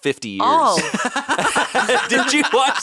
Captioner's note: laughing